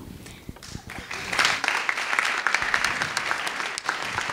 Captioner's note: clapping